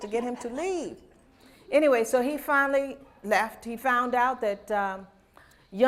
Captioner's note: laughter